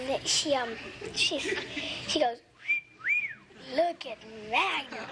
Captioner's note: whistles